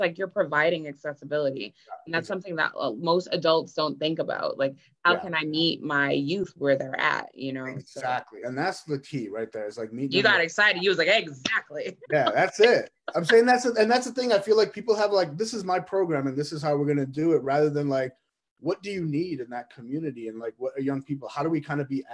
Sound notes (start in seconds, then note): 11.9 laughs